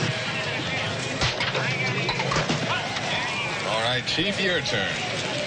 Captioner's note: air rifle shot